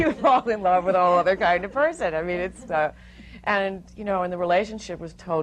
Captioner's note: laughter